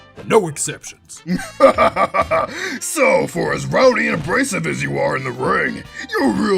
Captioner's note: laughs